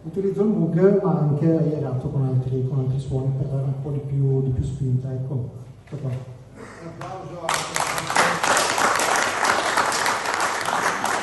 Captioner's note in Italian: Applauso